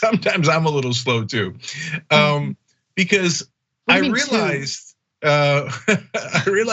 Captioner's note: laugh